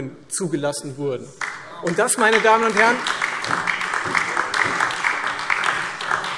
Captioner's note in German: Beifall Freie Demokraten und vereinzelt AfD, DIE LINKE